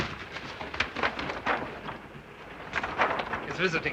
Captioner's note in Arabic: حفيف الورق; حفيف الصناديق